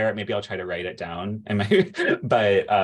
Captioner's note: laughter